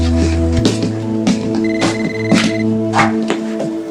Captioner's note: cell phone rings